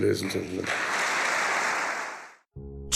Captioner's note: audience applauding